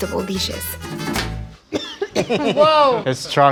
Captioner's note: coughing